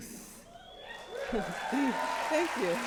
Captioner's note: applause